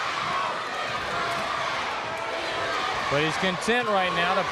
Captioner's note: crowd cheering